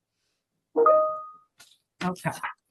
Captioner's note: computer chime